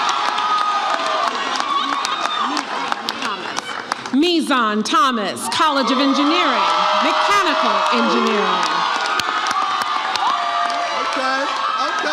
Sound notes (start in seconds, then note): 8.4 audience cheers